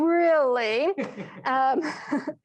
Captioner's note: laughs